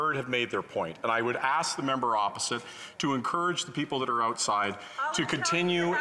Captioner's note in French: voix de l'interprète